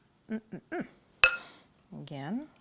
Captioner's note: spoon clangs